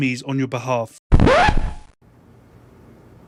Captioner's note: record scratch